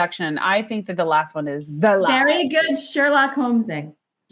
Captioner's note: laughs